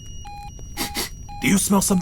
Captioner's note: sniffs